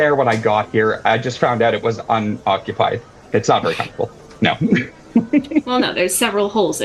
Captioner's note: laugh